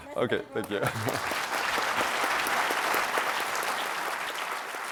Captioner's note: applause